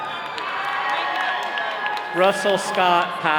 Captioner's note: all cheering